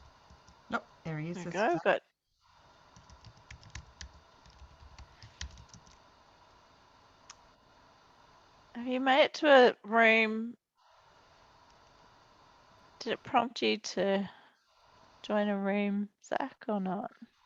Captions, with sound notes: Nope, there he is. (talking in unison) - Have you made it to a room? Did it prompt you to join a room Zac or not?